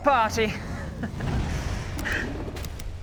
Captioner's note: smug chuckle of villainous hubris